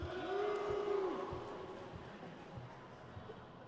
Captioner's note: crowd cheers